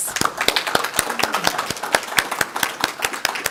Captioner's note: applause